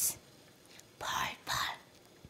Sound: whispers

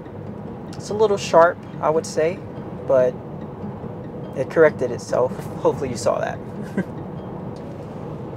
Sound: chuckles

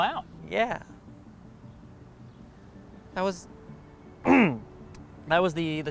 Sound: clears throat

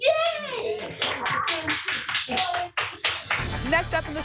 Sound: applause

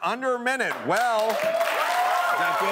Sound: cheering and applause

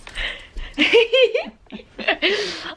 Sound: both giggling

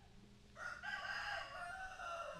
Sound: rooster crowing

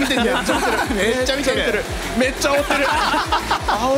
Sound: laughs

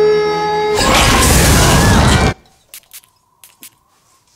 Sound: fire roars

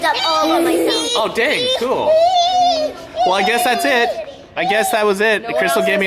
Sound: making excited noises

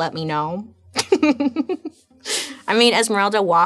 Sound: laughing

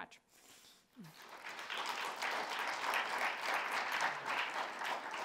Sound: audience applauding

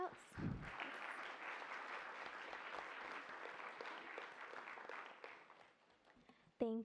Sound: applause

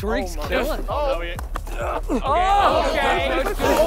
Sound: indistinct chattering; grunting and yelling

